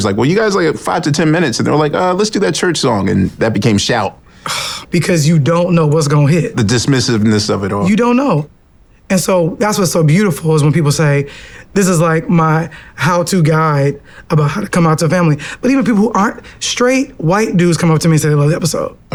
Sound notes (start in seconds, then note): 5.6 scoffs